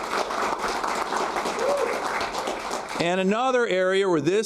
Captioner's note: applause